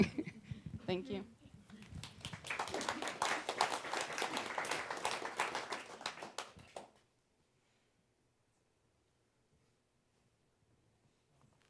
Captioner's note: she chuckles; applause